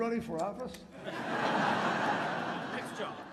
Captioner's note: laughter